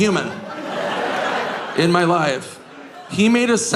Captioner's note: audience laughing